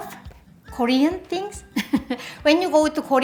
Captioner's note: laughs